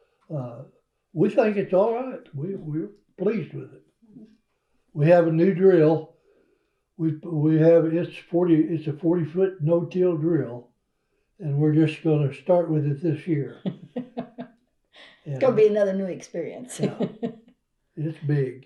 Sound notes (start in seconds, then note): 11.5 laughter; 15.0 laughs